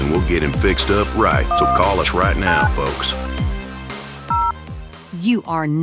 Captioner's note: dialing noise